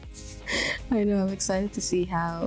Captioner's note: laughs